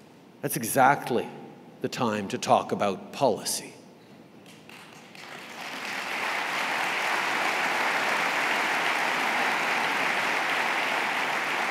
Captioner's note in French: Applaudissements